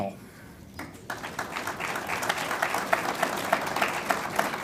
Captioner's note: audience applauds